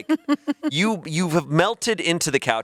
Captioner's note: laughs